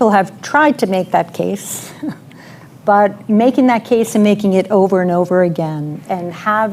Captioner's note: laughs